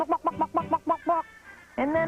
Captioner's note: chicken clucking